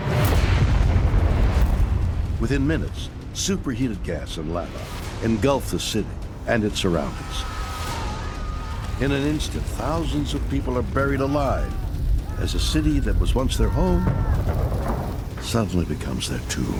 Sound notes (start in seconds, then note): 7.0 screaming